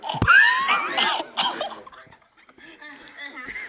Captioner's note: laughs and grunts; laughs